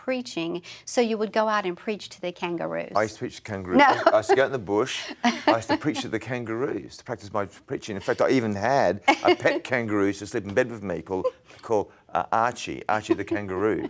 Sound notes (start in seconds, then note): 5.2 laughs